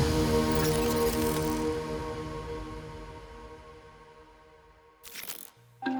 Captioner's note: suspenseful music; graphic blips; light techno music